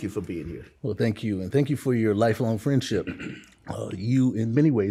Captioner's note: clears throat